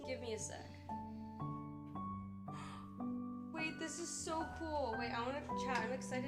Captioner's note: gasps